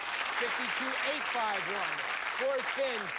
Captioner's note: cheers and applause